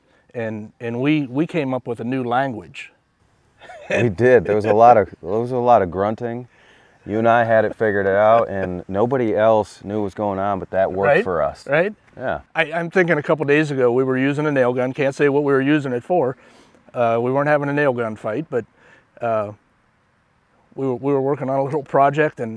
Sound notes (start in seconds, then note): 3.6 chuckles; 7.7 laughing